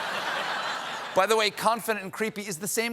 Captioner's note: laughter